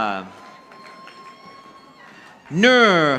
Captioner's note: audience applauding